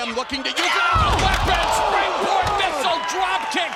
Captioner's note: commentators exclaim